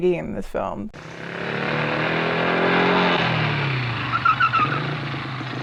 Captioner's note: motorcycle engine roaring